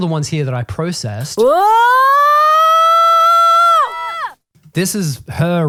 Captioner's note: vocalizing